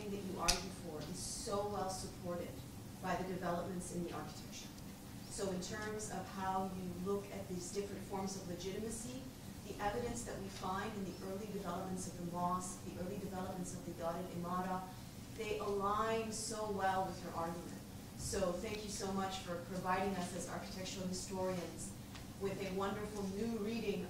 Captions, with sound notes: that you argue for is so well supported by the developments in the architecture. So in terms of how you look at these different forms of legitimacy, the evidence that we find in the early developments of the mosque, the early developments of the [NON-ENGLISH], they align so well with your argument. So thank you so much for providing us as architectural historians with a wonderful new reading